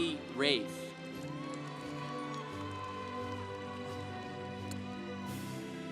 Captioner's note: congregation applauding